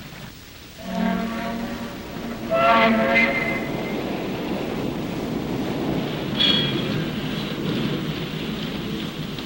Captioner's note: boat whistle